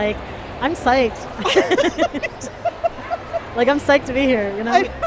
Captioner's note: laughter